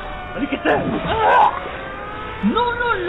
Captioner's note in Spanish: grito de agonía